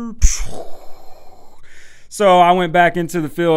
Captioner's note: mimics explosion